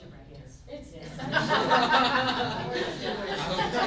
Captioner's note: group laughs